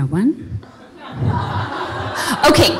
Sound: audience laughing

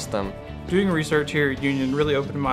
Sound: voiceover

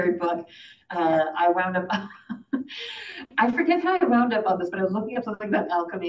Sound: laughs

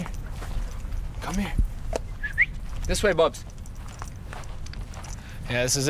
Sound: whistling

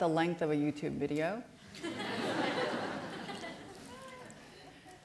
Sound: laughter

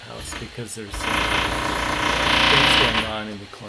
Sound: loud noise

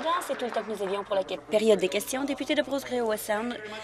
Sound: applause

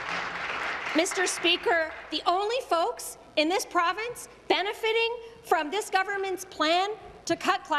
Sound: applause

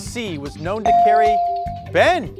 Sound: bell dings

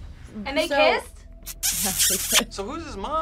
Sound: laughs

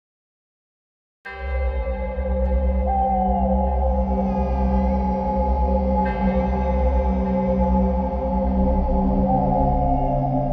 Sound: sound of scary night

